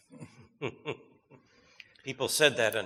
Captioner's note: chuckles